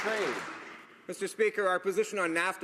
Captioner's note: some Applause